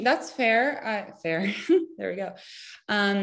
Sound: chuckles

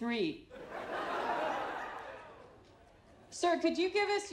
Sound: crowd laughing

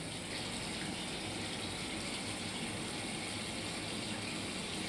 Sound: faucet running

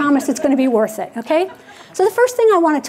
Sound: audience laughing

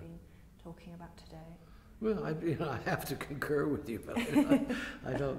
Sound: laughter; laughs

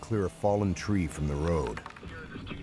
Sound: voiceover

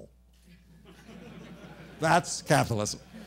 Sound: laughter

